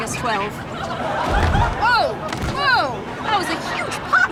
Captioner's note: thud